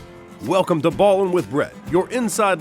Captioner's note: voiceover